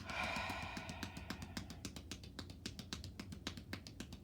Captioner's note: exhales deeply; hands tapping